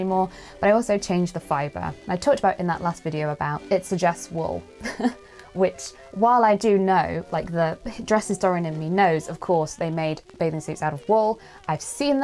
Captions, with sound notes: more, but I also changed the fiber. I talked about in that last video about it suggests wool [laughs]. Which while I do know, like the dress historian in me knows they made bathing suits out of wool, I've seen